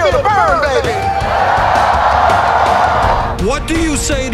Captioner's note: loud applause